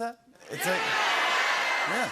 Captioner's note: audience shouting "Yeah"